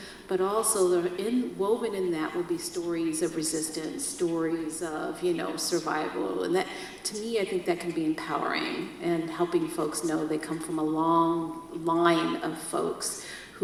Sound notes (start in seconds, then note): none